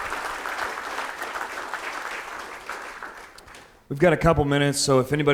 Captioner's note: audience applauding